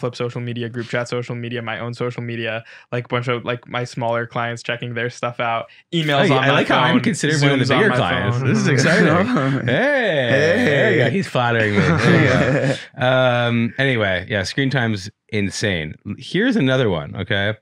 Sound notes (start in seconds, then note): 9.4 group laughing; 12.7 laughing